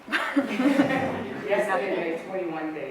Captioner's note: audience laughs